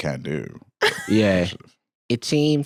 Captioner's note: laughs